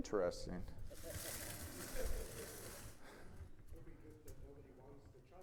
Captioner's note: audience laughing